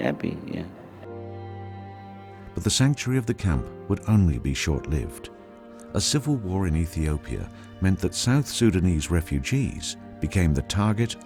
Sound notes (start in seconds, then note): 1.2 solemn ambient music; 2.8 voiceover